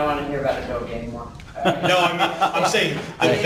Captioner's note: laughing